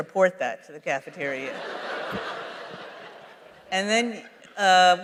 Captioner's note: laughter